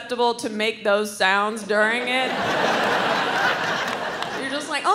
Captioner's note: crowd laughs